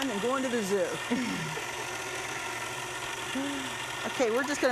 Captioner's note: both chuckling